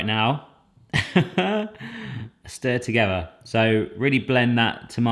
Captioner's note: chuckles